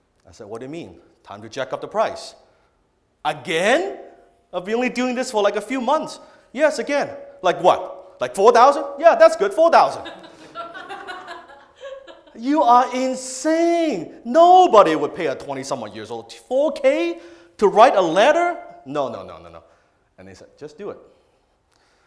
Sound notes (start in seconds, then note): 9.9 audience laughing